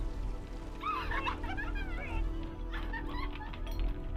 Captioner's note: laughter on television